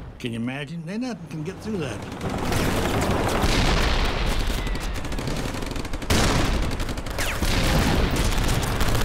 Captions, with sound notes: Can you imagine? There ain't nothing can get through that. (cannon shots exploding) (rapid gunfire exploding)